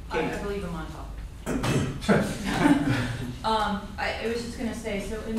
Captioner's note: laughter